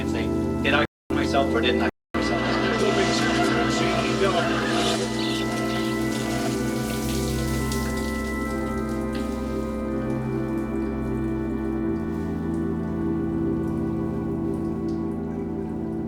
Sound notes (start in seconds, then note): 2.2 laughter; 8.2 shower stops